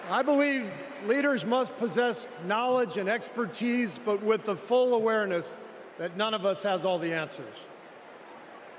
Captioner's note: applause